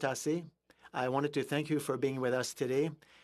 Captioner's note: speaking in French